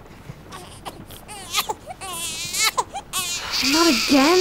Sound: Brady coos; Brady cries

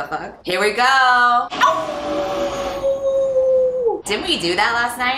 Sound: howls

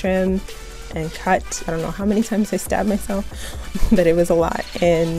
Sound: laughs

